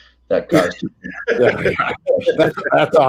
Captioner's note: all laugh